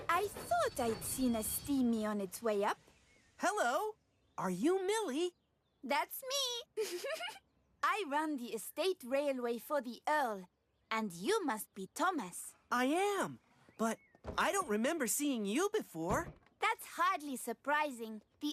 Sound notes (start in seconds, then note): 6.7 laughs